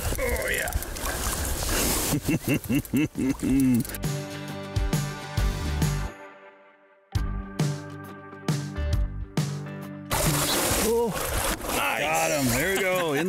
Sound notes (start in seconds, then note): 2.0 laughs; 10.1 water splashing